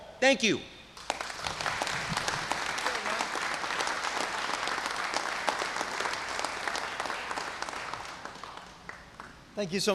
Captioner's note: applause